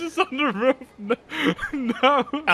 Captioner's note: laughing